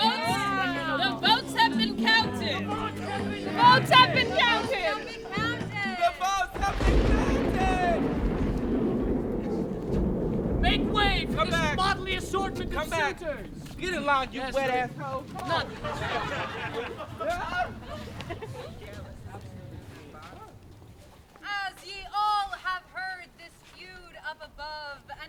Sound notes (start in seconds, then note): 9.2 thunderclap; 15.4 laughter